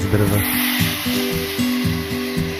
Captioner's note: woosh